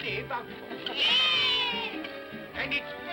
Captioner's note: children cheer